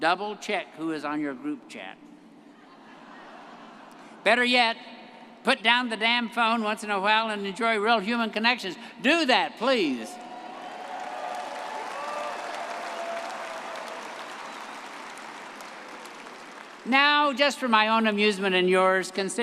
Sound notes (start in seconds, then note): 2.6 everyone laughing; 10.1 graduates applauding and cheering